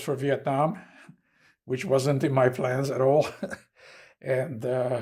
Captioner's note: laughing